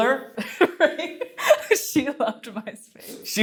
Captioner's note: laughs